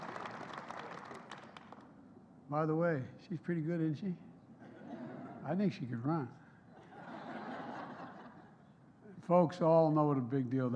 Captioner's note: applause